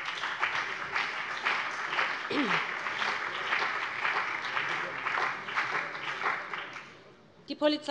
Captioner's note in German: Beifall BÜNDNIS 90/DIE GRÜNEN und CDU